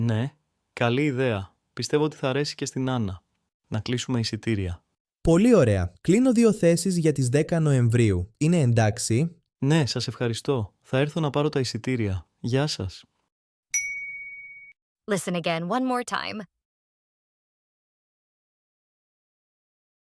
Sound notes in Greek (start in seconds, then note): 13.7 καμπανάκι